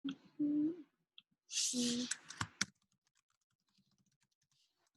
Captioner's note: typing